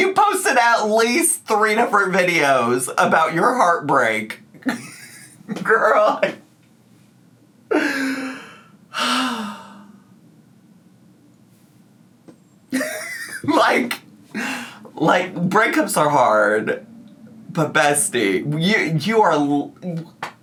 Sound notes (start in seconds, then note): 4.6 laughs; 8.9 sighs; 12.7 laughs; 18.4 laughs